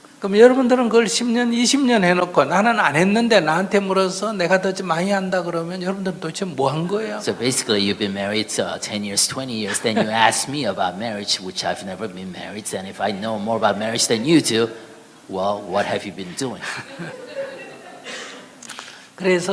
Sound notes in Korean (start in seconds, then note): 12.2 스님과 청중 웃음